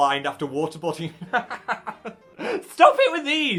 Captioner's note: host laughs